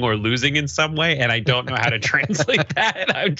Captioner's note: laugh